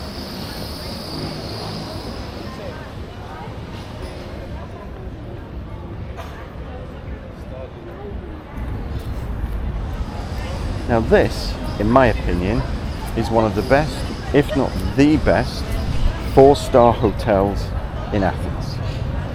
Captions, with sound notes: (people chattering) Now this, in my opinion, is one of the best,